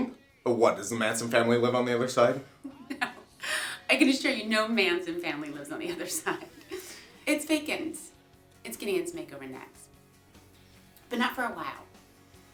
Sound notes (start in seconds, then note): 5.8 giggling